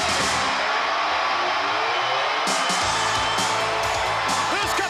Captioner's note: audience cheering